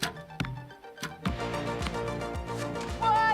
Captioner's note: arrow hits target